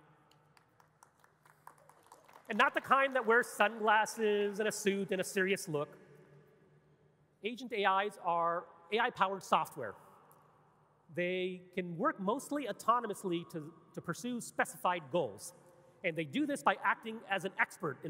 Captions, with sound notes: (audience clapping) And not the kind that wears sunglasses and a suit and a serious look. Agent AIs are AI powered software. They can work mostly autonomously to pursue specified goals. And they do this by acting as an expert